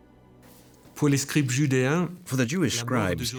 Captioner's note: speaking French